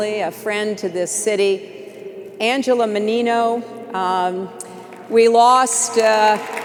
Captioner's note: applause